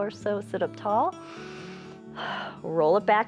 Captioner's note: inhales and exhales